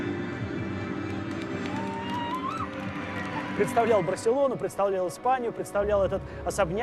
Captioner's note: soft instrumental music; people clapping; woman cheers